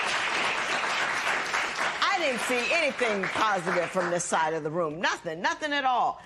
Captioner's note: applause